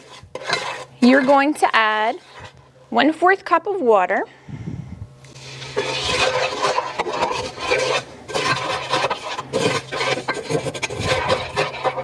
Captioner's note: stirring